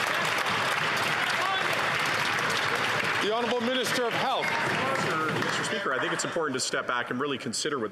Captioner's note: some Applause